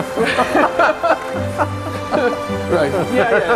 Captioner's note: both laugh